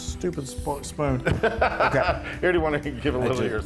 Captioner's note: laugh